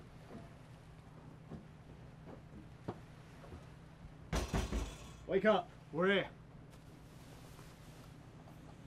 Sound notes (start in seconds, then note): 4.3 knocking